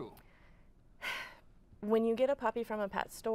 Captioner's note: sighs